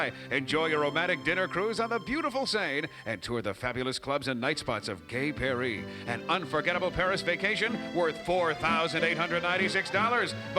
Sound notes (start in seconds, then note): none